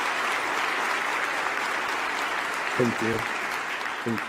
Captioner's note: applause